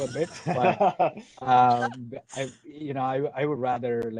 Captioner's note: laughter